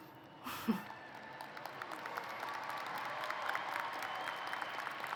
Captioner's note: applause